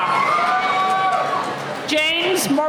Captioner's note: cheering